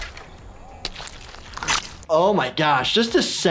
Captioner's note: squelching